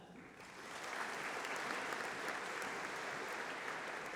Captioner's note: applause